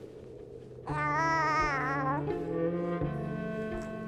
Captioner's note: cooing